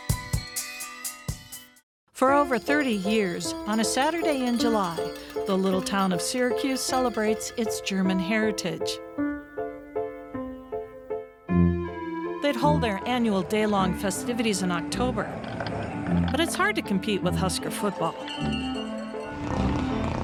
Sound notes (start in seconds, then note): 0.0 upbeat music; 2.2 bells jangling; 2.3 playful piano music; 13.5 playful music